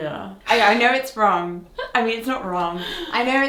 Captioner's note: laughs